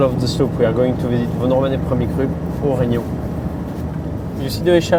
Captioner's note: car engine whirring in the background